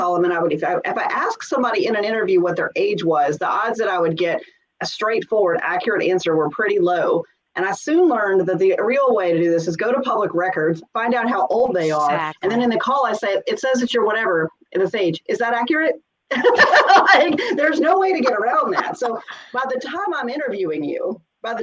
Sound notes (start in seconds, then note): 16.3 laughs